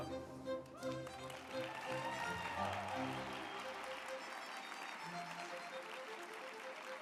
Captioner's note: uplifting music; group applauding